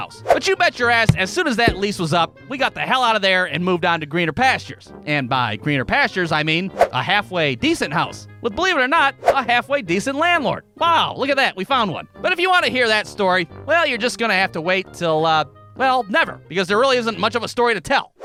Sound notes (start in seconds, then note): none